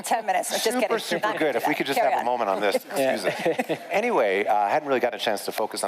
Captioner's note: laughter